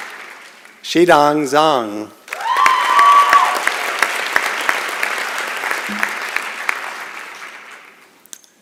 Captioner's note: applause and Cheering